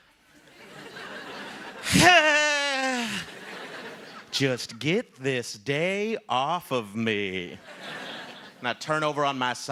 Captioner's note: laughter